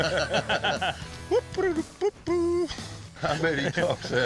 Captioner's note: laughter; humming